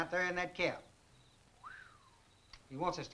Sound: Chase whistles

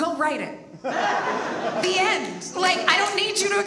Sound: audience laughs

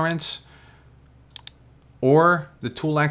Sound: mouse clicks

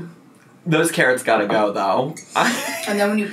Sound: chortles

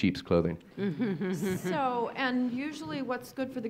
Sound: laughs

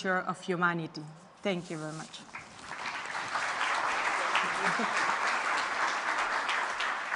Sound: applause

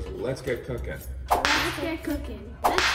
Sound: whip cracking

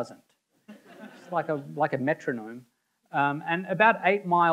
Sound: audience members laughing

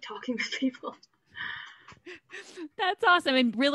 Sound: laughs

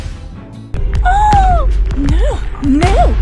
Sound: gasps

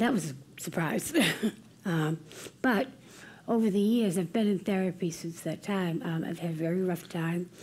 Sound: laugh

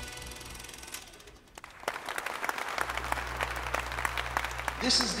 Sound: applause

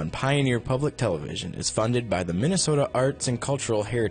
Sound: voiceover

